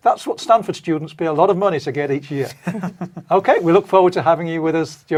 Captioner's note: laugh